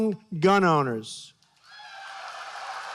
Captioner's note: applause